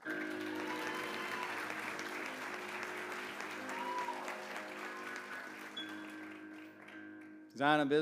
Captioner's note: applause